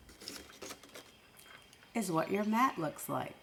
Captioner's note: paper crippling